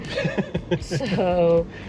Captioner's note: chuckling